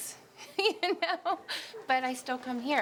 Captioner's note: laughing